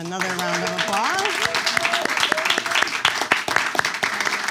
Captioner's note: audience claps